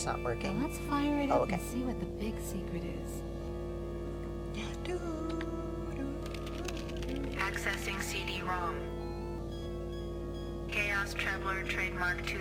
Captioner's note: imitates soundtrack